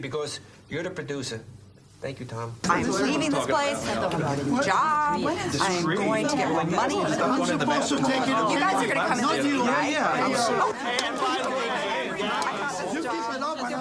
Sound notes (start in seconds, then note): 3.0 people chattering; 10.1 overlapping chattering